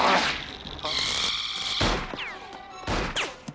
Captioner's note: motor whirs